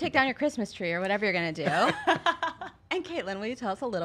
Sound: laughs

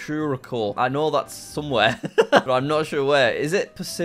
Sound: laughs

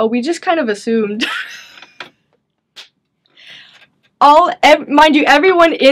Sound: chuckles

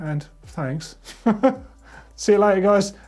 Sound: laughs

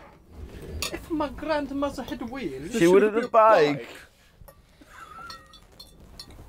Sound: with an italian accent

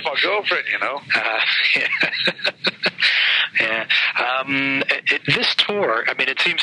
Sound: laughing

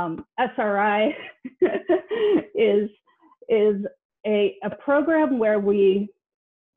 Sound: laughs

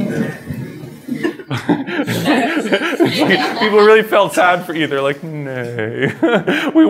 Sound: laughs

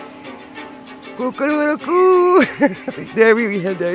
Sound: laughs

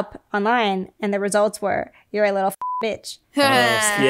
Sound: beep

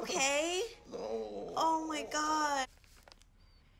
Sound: Charles groaning

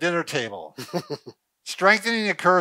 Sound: laughing

